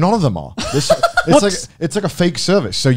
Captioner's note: laughs